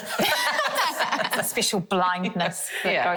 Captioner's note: all laugh